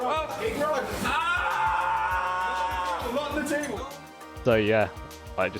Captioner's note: screaming